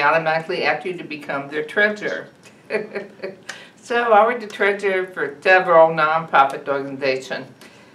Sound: laughs

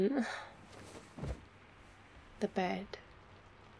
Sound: flop

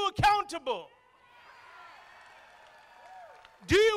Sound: crowd applauding

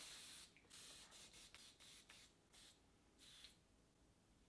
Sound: can hisses softly

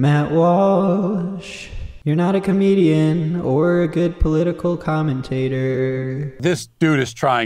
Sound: auto-tuned

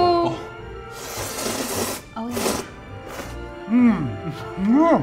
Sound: slurps

